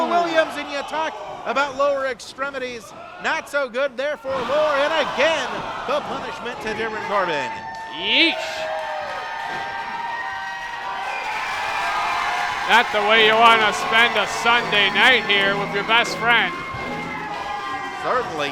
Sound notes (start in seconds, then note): 9.7 crowd cheering